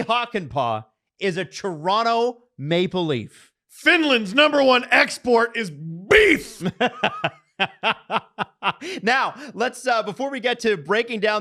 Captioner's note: laughs